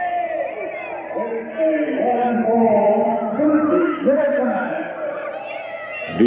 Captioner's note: announcer speaking in background